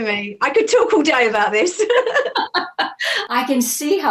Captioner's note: laughs